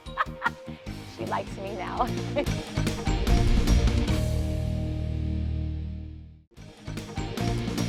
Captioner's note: laughter